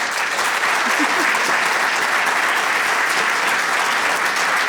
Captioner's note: applause